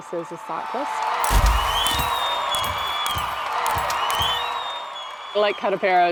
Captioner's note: cheers